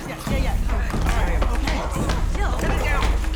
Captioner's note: muffled growling